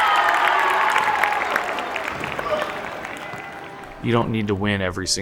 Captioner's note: cheering